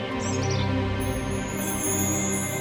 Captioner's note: magical sounds